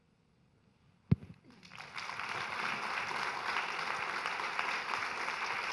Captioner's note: audience applauding